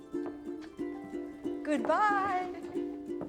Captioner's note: giggling